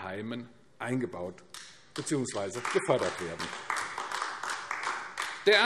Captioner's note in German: Beifall AfD